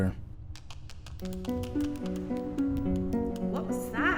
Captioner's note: skittering sound